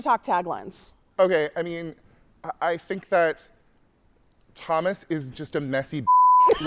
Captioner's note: beep